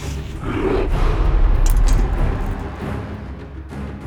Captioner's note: knife clattering; tense orchestral music